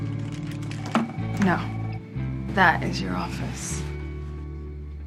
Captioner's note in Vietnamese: điện thoại reo